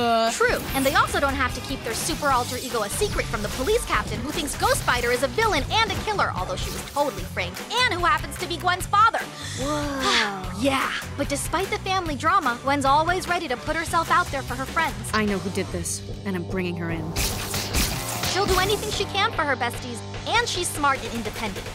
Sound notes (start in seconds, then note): 9.3 gasp